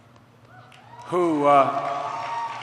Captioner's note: applause